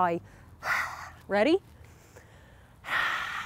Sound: blowing out air; blowing out air

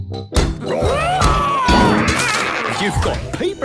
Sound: all roaring

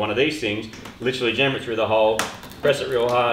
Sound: clicks

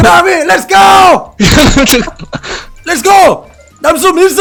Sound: laughter

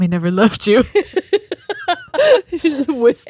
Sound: both laugh

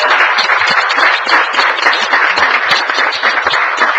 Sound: applause

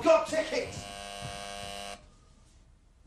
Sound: door buzzer

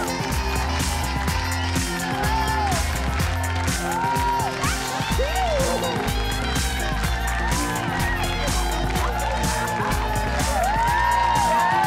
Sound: cheers and applause

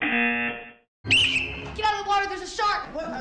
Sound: whistle

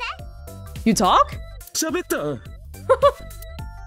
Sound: chuckles

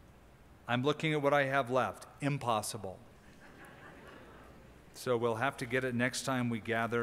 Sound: laughter

